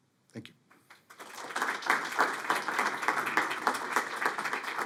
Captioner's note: audience applauding